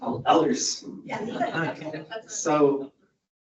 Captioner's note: audience laughs